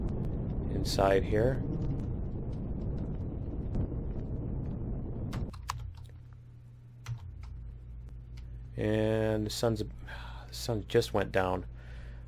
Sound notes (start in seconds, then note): 4.4 thrusters stop; 5.3 keystroke